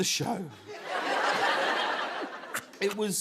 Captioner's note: laughter